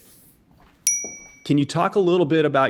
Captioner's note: bell dings